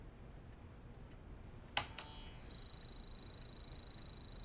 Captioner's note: beeping